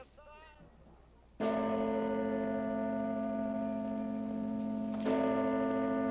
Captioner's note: bell tolling